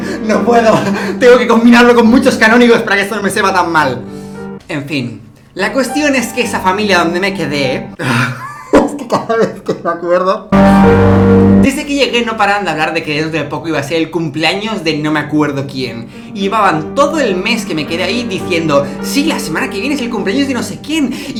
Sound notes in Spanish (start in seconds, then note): 8.0 Risas